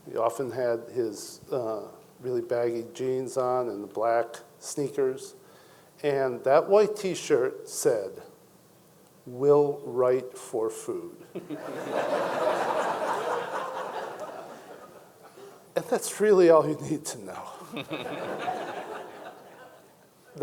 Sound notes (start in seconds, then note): 11.4 audience laughing; 17.5 audience chuckling